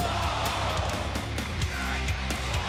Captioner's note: crowd cheering